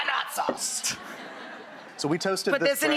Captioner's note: laughing